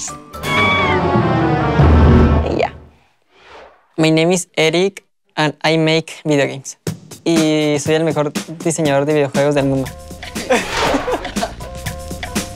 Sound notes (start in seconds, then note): 0.4 music descending; 7.1 speaking Spanish; 10.1 upbeat energetic music